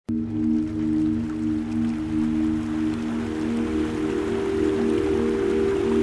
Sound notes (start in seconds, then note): 0.0 light ambient music; 0.1 water flowing